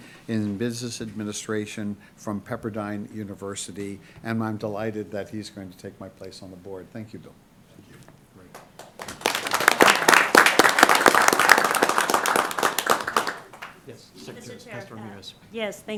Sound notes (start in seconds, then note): 8.5 applause